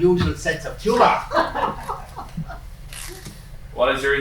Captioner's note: laughing